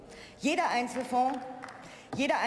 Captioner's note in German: Beifall